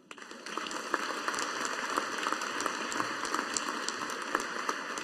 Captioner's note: audience applauding